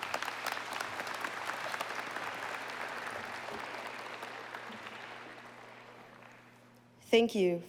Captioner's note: applause